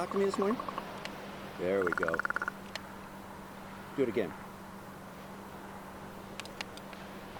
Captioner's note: bird makes rattling clicking sound